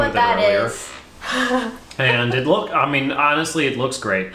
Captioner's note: laughs